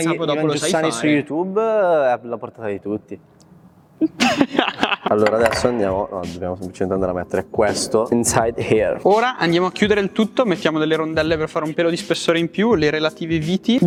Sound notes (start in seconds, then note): 4.0 laughter